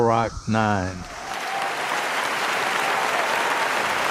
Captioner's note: applause